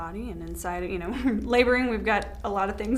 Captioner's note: giggles